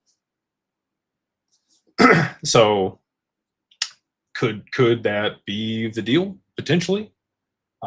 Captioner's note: clears throat